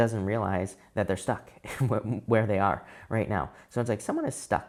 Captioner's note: chuckles